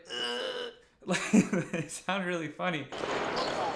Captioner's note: imitates gasping; laughs